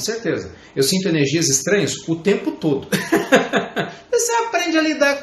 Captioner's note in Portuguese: risadas